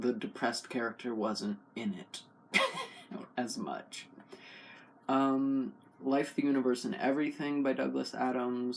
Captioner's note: laugh